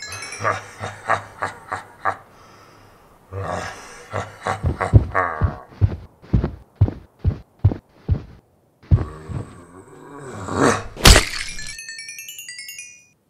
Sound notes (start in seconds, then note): 0.3 laughs; 5.4 footsteps; 11.0 punch